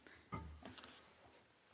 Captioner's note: speaking French